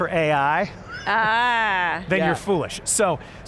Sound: laughs

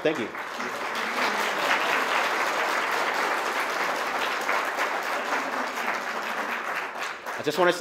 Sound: applause

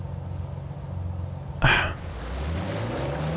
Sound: sighs

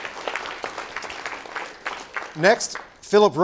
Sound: applause

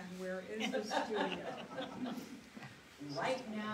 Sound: laughs

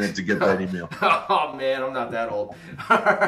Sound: laughs

